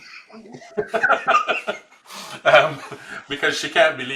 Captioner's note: laughs